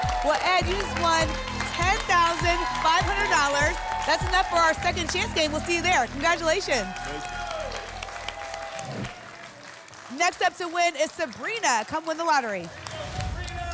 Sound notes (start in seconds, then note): 8.1 applause and cheering; 8.8 whoosh; 13.5 applause and cheering